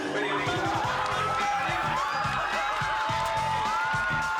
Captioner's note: guests cheering